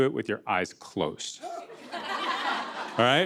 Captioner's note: laughter